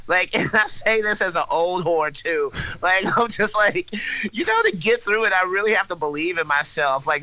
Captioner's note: laughs